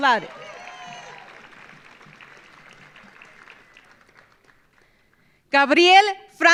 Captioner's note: audience cheering; audience applauding